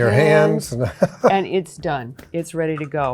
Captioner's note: chuckles